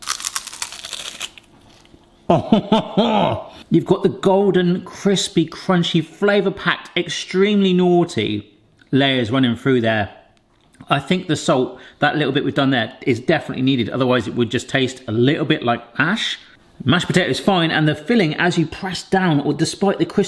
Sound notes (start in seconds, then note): 0.0 potatoes crunching loudly; 2.9 exclaiming in delight